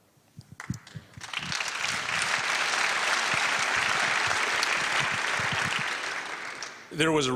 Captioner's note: applause